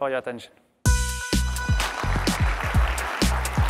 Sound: applause

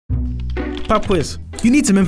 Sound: voiceover

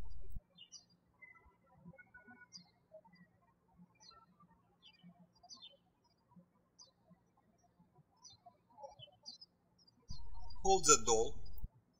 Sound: birds chirping

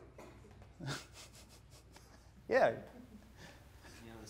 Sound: laughs

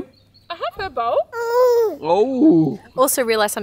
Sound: makes disgruntled baby noises

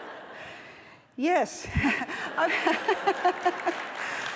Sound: laughs; applause

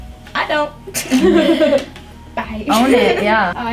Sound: students laughing

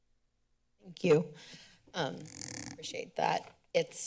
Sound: mic rustling

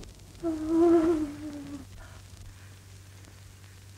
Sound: gasping

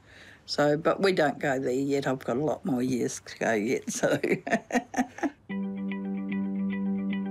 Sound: chuckles; uplifting music

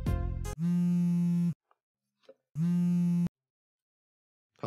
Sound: phone Vibrating

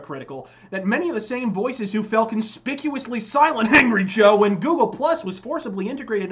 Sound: cough

